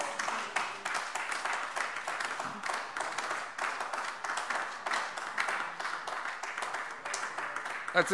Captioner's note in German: Beifall AfD